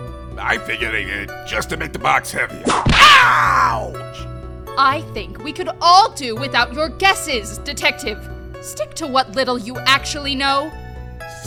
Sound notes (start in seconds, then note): 2.6 whip crack!